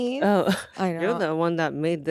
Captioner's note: laughs